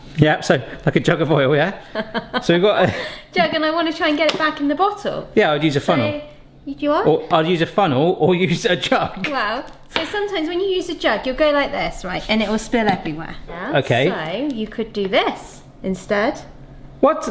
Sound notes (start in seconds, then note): 2.3 chuckling